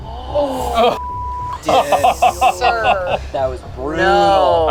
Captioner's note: beep